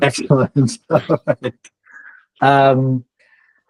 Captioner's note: laughs